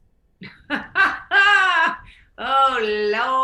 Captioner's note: laughs